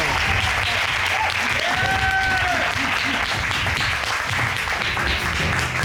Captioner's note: audience cheering, applauding